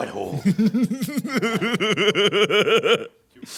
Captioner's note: giggles happily